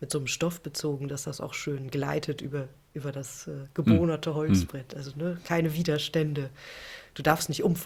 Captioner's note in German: räuspern